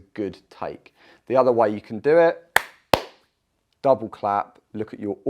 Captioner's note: claps